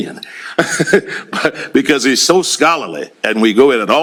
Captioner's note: laughs